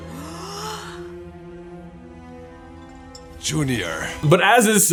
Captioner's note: gaaaaaaaasp